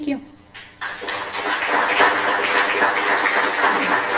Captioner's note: applause